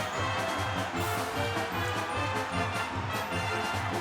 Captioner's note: crowd cheering